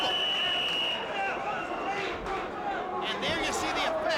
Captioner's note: whistle blowing